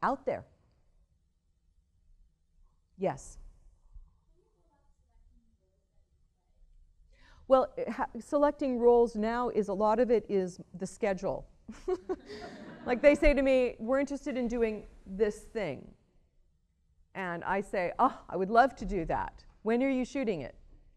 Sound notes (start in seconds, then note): 15.0 laughter